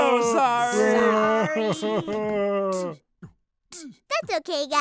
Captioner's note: monsters crying